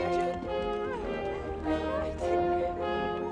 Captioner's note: crowd gasps